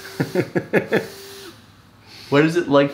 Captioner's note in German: lacht